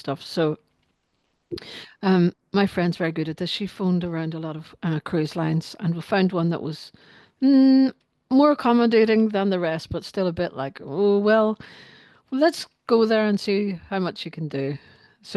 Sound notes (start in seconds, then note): none